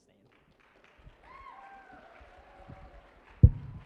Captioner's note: applause